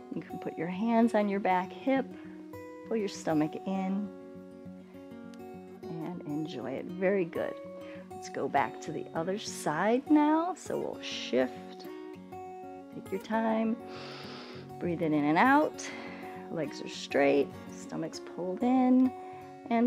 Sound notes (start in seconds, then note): 13.8 inhales